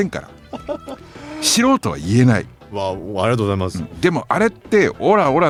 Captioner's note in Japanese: 笑い